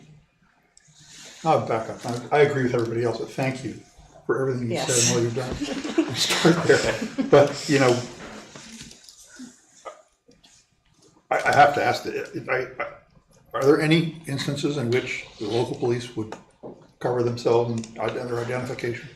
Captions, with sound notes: Now, Becca, I agree with everybody else, but thank you for everything you said and what you've done. (laughing) But you know, I have to ask, are there any instances in which the local police would cover themselves under identification?